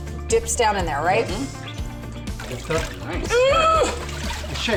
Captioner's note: grunting